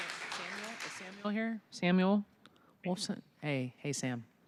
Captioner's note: applause